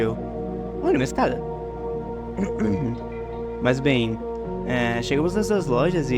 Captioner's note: clears throat